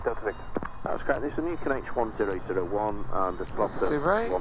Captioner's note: 2nd Man On Radio